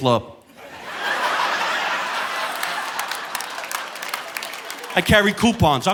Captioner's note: audience laughing